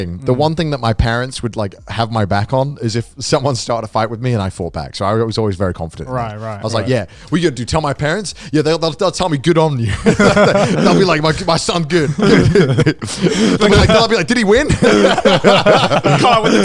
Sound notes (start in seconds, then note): 9.8 all laughing; 15.7 laughing